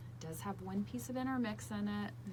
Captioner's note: none